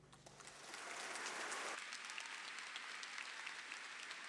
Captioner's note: audience applauding